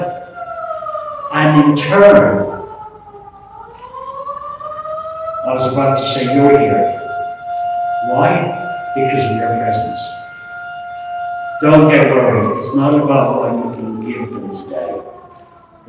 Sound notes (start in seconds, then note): 0.0 siren; 4.4 siren; 11.3 siren; 15.4 siren fading out